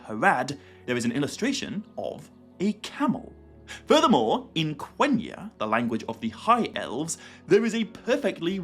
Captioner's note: the language of the High elves